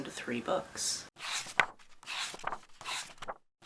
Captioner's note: pages turning